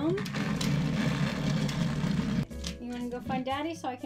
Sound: Thomas Tank engine vibrating

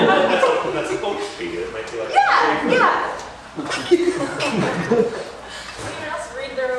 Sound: laughter

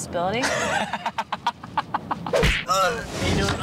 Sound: laughs

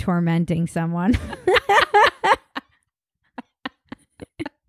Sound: laughing

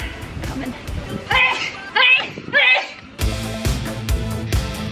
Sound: sneezes; energetic rock music

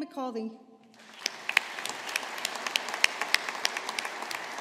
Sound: audience applauding

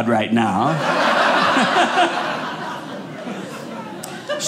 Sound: audience laughing

